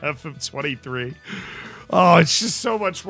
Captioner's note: deep breath